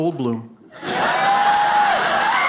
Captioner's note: audience laughs; audience applauding